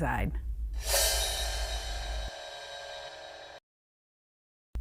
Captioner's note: graphic chiming